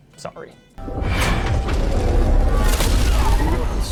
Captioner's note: machine whirring